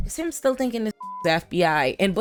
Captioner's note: beep